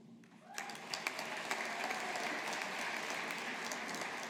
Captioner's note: audience applauding